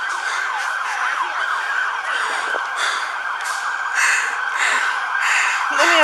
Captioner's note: sirens